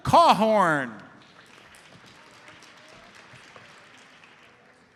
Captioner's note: audience applauds